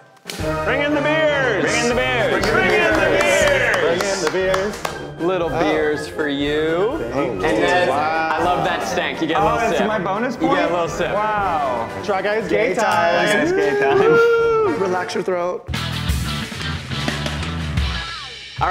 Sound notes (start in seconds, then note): 2.4 clapping; 15.8 upbeat music